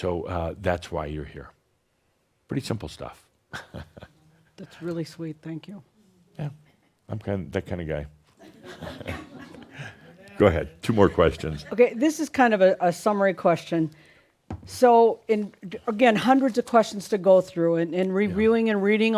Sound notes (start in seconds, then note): 3.5 chuckles; 9.8 a few chuckles